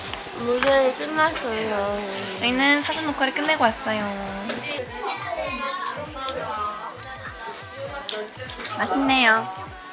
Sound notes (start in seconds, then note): 3.2 nom nom; 5.7 chomp; 7.9 nom nom